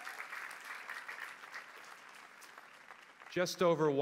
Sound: applause

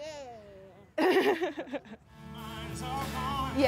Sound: laughing; upbeat music

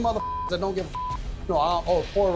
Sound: beep

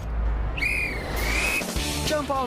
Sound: guard's whistle blows

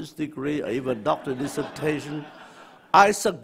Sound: audience laughs

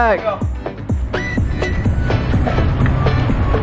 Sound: water splashing

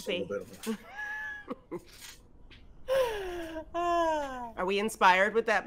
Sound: group laughs

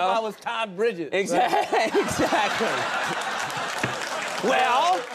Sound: audience laughing

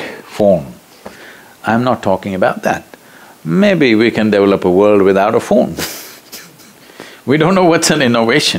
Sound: laughs

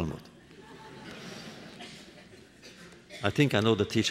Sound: laughter

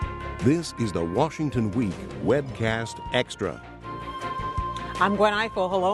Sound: voiceover

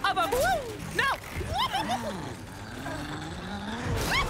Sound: fear Squealing; fear Squeal

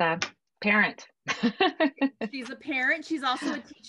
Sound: laughing

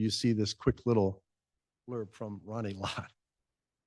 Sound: chuckle

